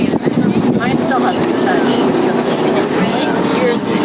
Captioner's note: boat motor and distant talking